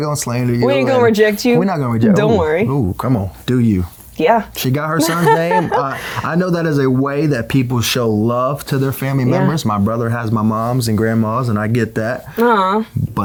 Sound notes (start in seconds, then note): 5.0 laughing